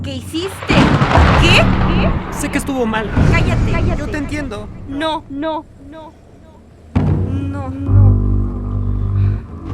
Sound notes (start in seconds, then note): 0.2 thunder and drums sound